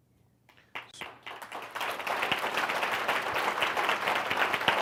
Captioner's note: audience applauds